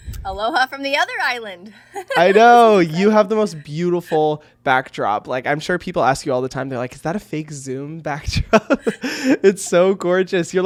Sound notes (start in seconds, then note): 1.9 laughing; 8.5 laughs